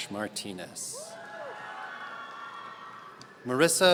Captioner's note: audience cheering